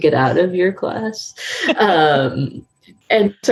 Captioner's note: laughing